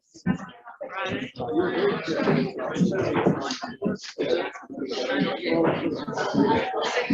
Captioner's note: background chatter